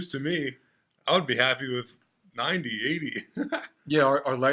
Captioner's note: laughs